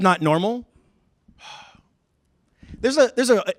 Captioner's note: sigh